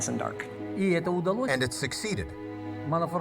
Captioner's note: speaking foreign language